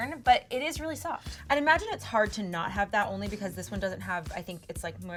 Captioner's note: none